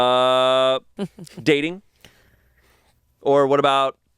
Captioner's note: chuckles